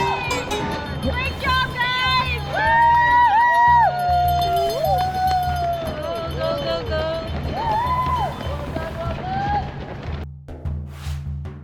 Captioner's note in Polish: Aplauz